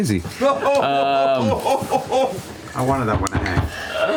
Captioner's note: laughter